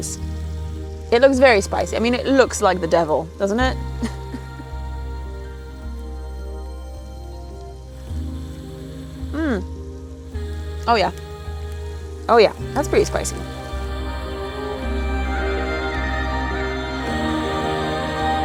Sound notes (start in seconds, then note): 4.0 laughs softly; 15.7 gentle music